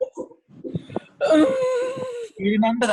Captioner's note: awkwardly squealing